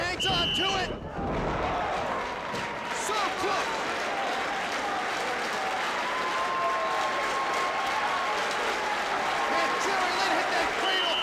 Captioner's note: applause